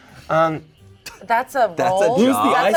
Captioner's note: laughs